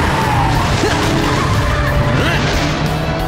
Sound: Ace grunts

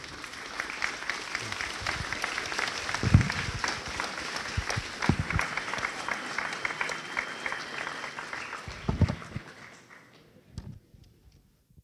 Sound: increasing applause

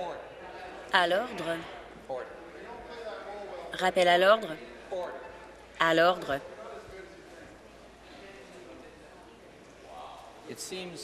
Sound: conversation din

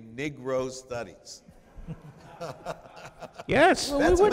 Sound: chuckling

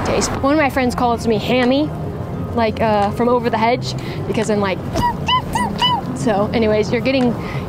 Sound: squeeks

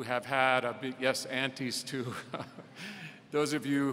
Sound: laughing

